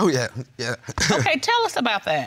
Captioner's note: chuckles